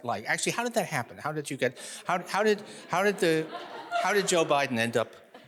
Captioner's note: audience laughing